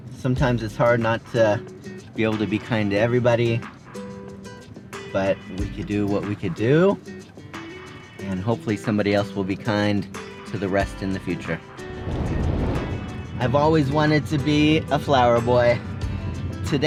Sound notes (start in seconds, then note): 11.8 transition screen whooshing